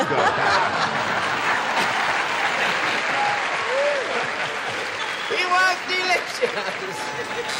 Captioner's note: laughter